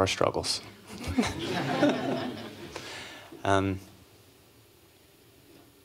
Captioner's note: laughter